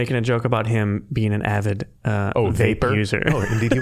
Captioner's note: laughing